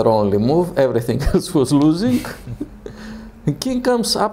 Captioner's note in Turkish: gülüşmeler